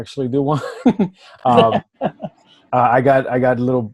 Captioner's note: laughing